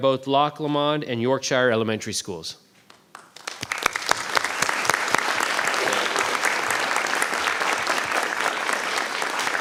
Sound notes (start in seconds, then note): 2.9 applause